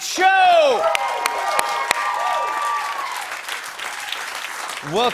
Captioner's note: cheers and applause